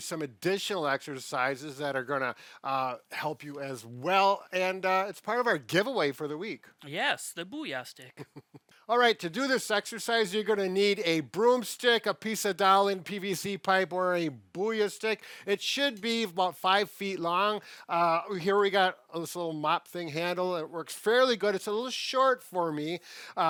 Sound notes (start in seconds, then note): 8.2 chuckles